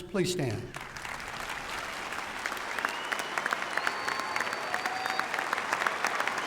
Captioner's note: applause